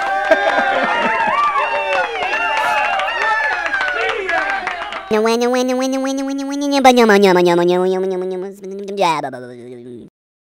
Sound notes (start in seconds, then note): 0.0 clapping and cheering; 5.1 funny motor sound